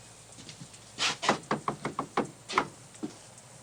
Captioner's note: knocking